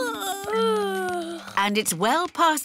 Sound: yawning

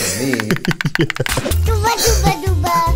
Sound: laughs

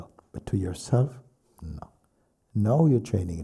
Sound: none

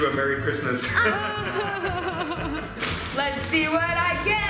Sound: laughing

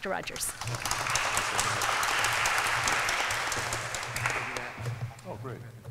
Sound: applause

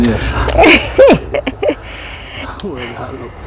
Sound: giggling

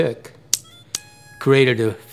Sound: lighter clicks

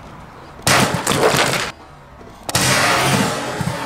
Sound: smash

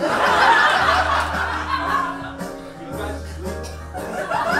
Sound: audience laughs

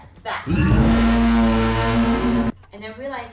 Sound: foghorn blowing

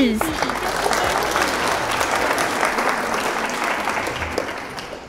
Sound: clapping

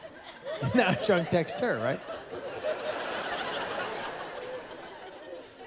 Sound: laughter

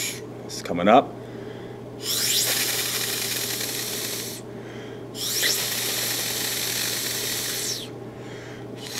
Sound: blows

